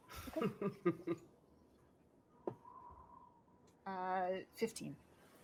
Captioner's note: laughing